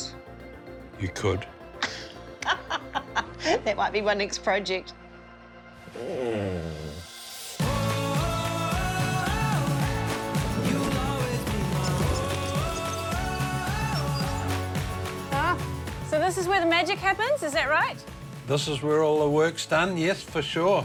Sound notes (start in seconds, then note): 2.3 laughs; 5.9 grumbles